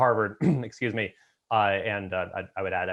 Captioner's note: coughs